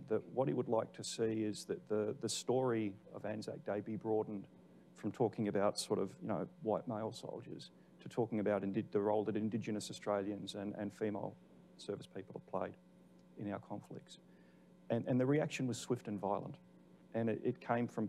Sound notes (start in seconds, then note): none